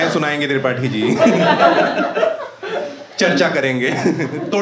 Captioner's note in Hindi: हँसना